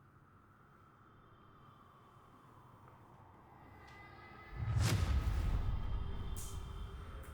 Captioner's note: wind blowing